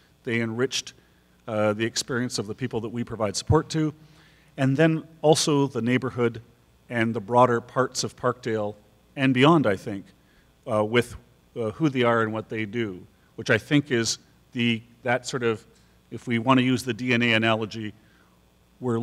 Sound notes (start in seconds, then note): none